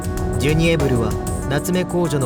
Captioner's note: none